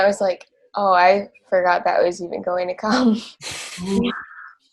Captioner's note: laughs